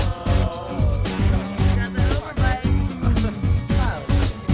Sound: indistinct chatter

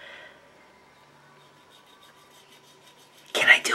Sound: knife sawing

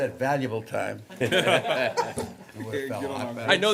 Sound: laughter

